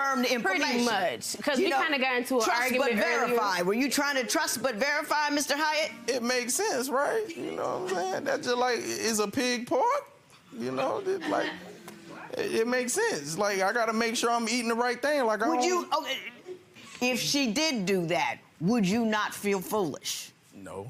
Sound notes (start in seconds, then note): 11.2 audience murmuring